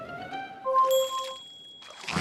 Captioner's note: bell dings